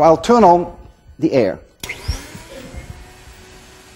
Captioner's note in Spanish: Soplido de aire